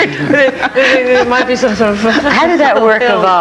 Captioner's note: panelists chuckling